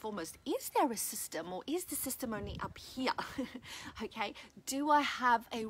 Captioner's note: laughs